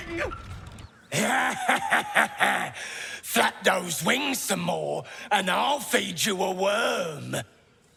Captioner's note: laughing